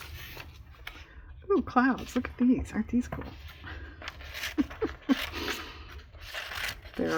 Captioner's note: laughs